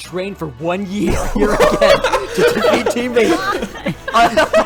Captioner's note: everyone laughs